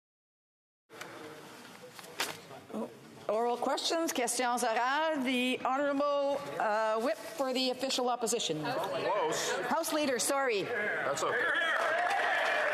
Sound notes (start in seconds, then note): 7.5 speaking French